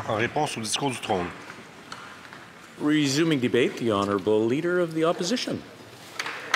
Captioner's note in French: voix de l'interprète